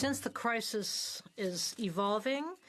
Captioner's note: speaking French